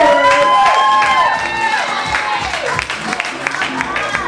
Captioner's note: audience cheers; dance music